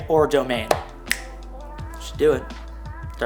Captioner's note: snap